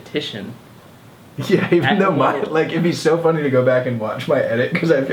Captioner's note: laughing